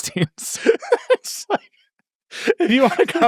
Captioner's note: laugh